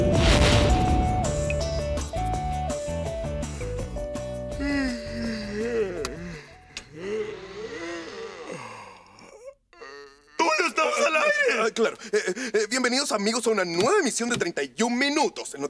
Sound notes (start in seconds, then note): 4.4 yawns